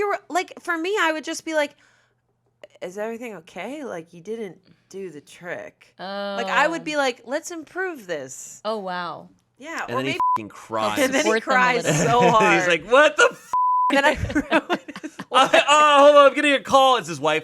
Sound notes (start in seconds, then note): 9.9 beep; 13.5 beep; 14.0 everyone laughs